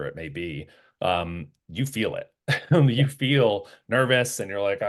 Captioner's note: laugh